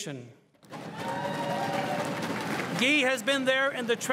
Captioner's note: crowd cheering and applauding